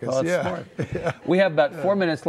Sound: laughing

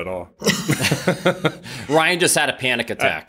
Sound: laughter

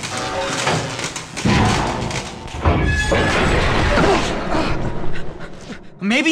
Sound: catwalks breaking

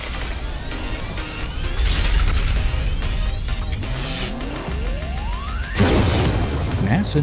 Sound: sound Effects

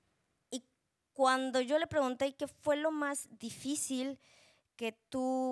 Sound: speaking Spanish

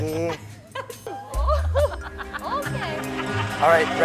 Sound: laughing

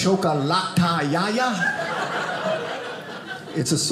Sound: audience laughing

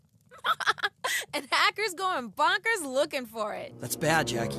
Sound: laughs

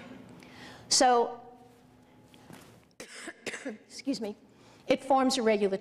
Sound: coughs

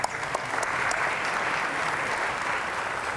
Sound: applause

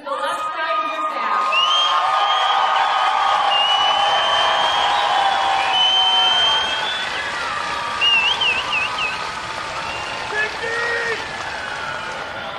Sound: cheering and applause

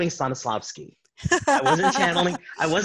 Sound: laughing

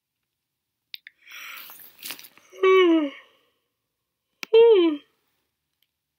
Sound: yawning

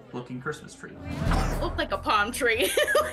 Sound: laughter

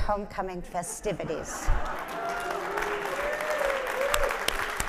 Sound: audience applauding

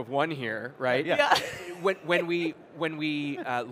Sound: laughs

